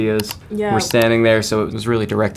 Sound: computer click

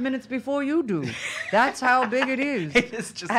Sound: laughing

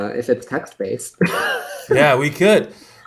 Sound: laughs

